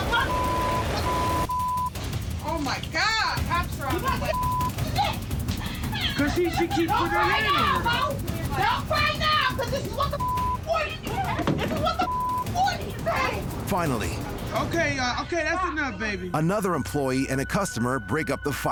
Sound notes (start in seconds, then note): 1.4 tense music fading; 7.0 beep; 12.0 beep